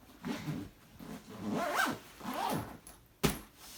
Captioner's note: loud zipping